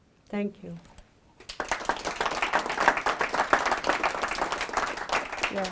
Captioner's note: audience clapping